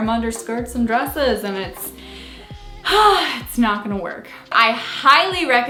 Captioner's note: sighs